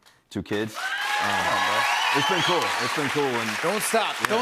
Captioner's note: cheers and applause